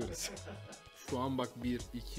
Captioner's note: laughter